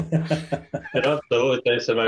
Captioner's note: laughs